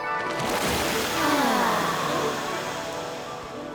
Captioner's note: sighing